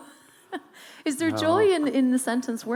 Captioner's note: laughing